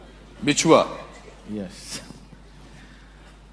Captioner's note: in Hindi